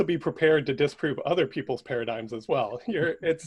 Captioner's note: laughs